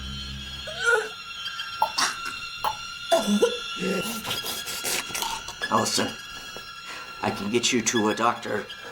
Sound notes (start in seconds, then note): 1.7 painful regurgitating